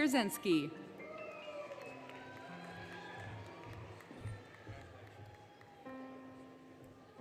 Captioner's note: applause, Cheering, Music